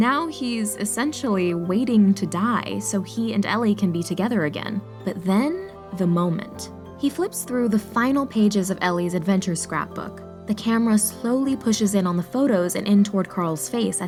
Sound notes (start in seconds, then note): none